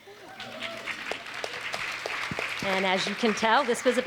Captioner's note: audience applauds; audience cheers